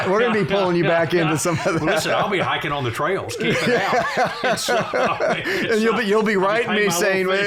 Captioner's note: laughter